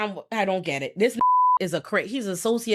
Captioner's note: beep